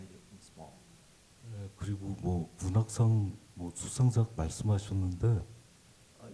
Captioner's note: speaking Korean